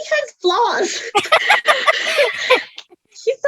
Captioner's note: laughs